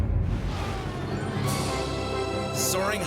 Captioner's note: jet whooshes